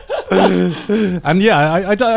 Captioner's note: Joey and Garnt laughing